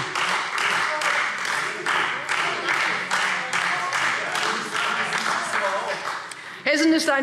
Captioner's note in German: Beifall Freie Demokraten